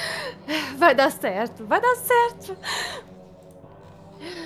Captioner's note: sob